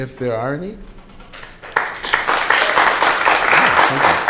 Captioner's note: clapping